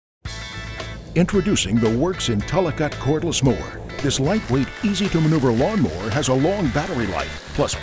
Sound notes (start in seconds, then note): 1.0 voiceover